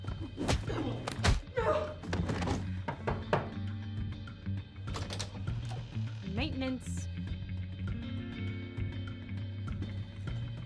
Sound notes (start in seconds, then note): 1.0 kicks and punches thudding; 2.9 knocking on the door; 7.9 tense music